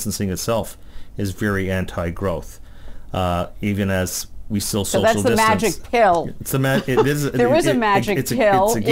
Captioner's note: laughs